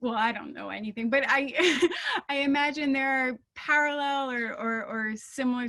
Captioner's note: laughing